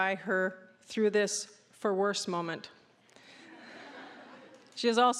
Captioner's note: audience laughing